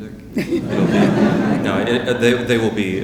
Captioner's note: audience laughing